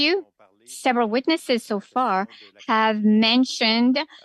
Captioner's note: speaking French